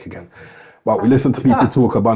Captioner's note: chuckling